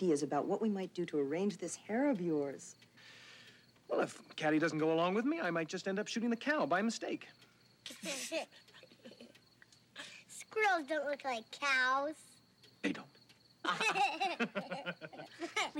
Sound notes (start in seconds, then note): 8.0 Warren giggles; 13.6 all laughing